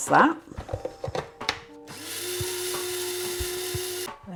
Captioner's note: coffee grinder whirring